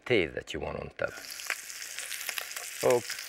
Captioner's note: meat sizzling